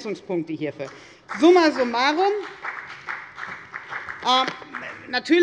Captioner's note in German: Beifall bei der FDP